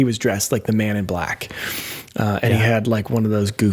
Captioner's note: breaths deeply